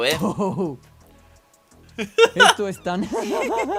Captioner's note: spanish video plays